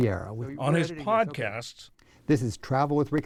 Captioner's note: voice-over